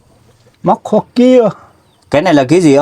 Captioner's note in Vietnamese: none